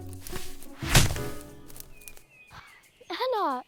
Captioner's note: branch thudding